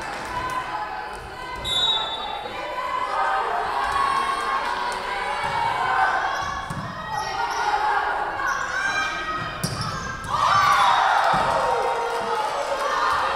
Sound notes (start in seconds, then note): 1.6 whistle blowing; 10.3 Tigers cheering